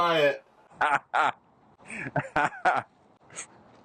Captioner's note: laughter